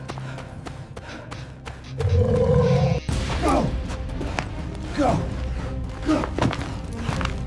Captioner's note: footsteps; panting; animal growling